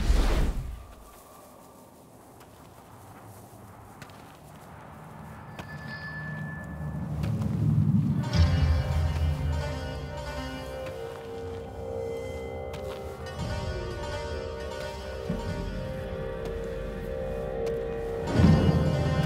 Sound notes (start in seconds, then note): 2.8 footsteps; 8.2 soft dramatic music